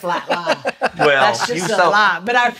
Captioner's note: laughs